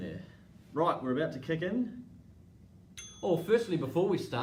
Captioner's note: timer dings